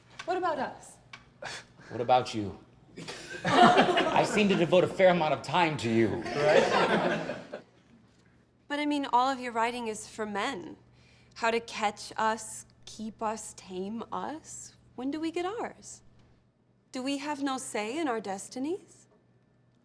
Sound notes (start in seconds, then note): 3.0 laughter; 3.0 laughs; 6.2 laughter